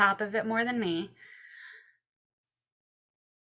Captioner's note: silence